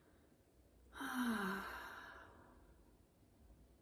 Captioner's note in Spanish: suspiro